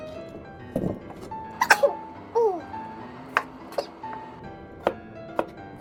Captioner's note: sneeze